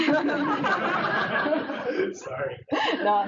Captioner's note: audience laughs